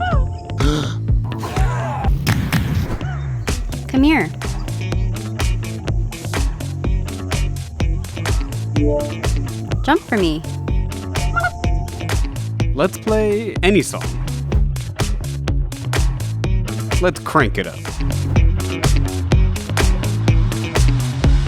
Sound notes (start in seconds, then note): 0.2 gasp; 0.6 sigh; 1.6 yelling; 11.6 burble; 18.8 upbeat music